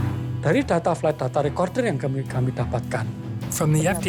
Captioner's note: non-english speech